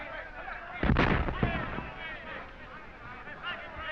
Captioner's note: explosions in distance